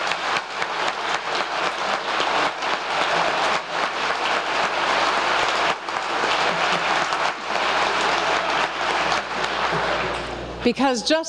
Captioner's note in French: applause